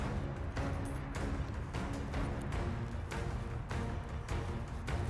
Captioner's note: keys jangling